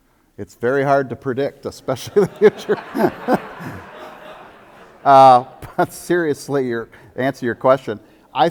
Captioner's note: audience laughter